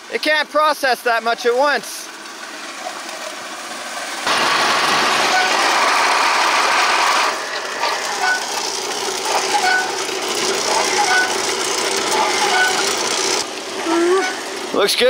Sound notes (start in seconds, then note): 5.0 machine rumbling; 10.1 machine squeaking